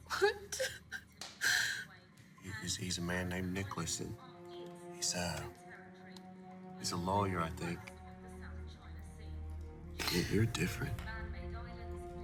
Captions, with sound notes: - What? (whimpers) - He's, he's, he's a man named Nicholas, And he's a, he's a lawyer, I think. (reporter speaking faintly) You, you're different.